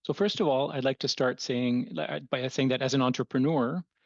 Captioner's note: speaking French